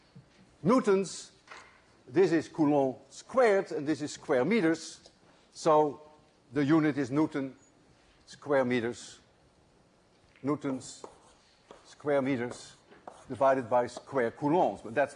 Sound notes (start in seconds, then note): none